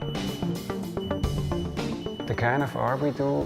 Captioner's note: beeping